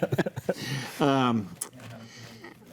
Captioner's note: group laughs